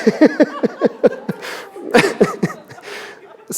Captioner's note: laughter